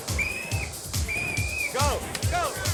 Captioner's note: whistle